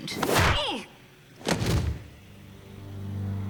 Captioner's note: loud thud